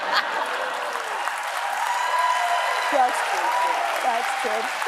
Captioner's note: laughs